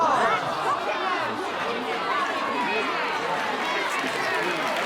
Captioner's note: crowding yelling and clapping